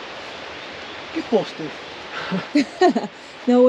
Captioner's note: laughs